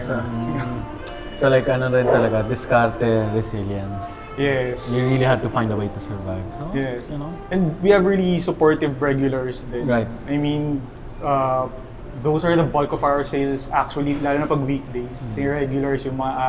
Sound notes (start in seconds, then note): none